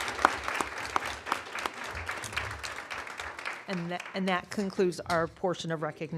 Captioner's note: applause